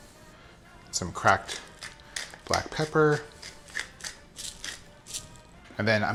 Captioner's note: pepper grating